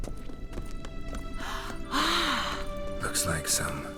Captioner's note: gasps with excitement